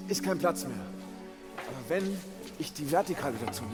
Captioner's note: leises Lachen und Stöhnen